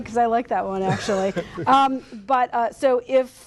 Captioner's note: light laughter